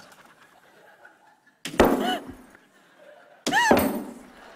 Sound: gasps

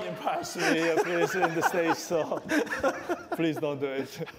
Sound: laughter

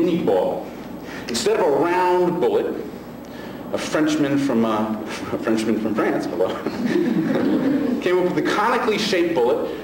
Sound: laughs

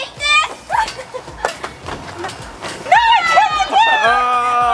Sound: yelling

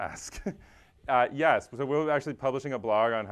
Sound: laugh

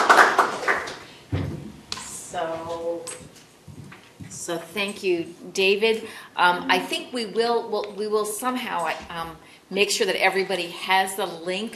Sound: applause

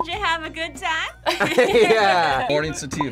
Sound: both laugh

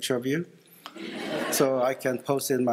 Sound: laughter

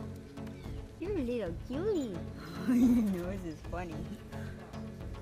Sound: laugh

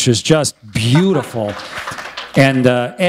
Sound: applause

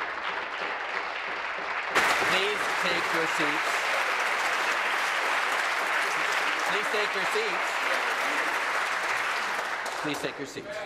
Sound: applause

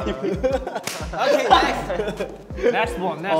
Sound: laughing

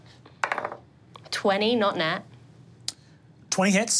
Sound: die taps table

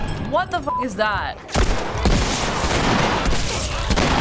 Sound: gun blasting

